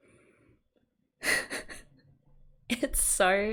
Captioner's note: laughs